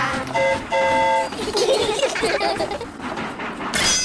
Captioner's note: train horn toots; all giggle